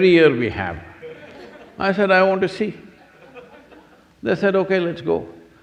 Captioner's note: few laugh